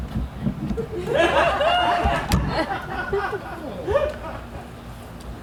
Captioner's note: audience laughs